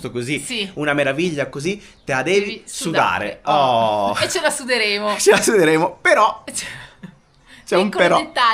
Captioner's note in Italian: risate